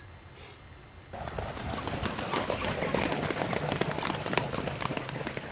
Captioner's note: water fowl sounds